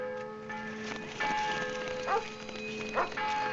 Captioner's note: police sirens; dog barking